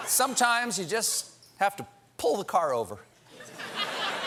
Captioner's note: laughter